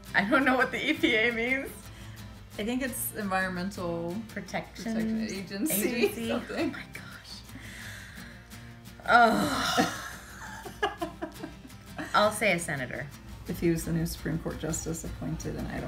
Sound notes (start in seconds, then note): 9.0 sighing; 9.2 laughing